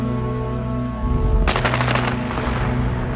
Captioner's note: gunshots